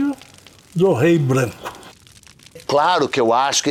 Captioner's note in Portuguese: estalos de fogueira